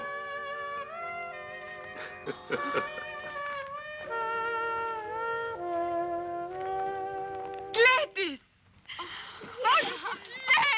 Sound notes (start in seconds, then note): 2.6 Georgia gasping